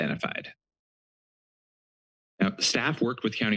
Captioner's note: pause